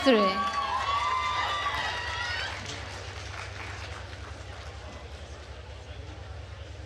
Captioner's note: attendees cheering and applauding